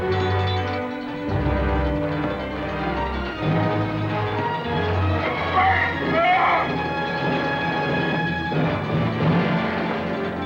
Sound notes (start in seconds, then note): 0.0 triangle rings; 5.2 prisoner yells